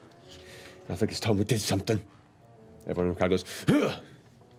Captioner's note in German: grunzt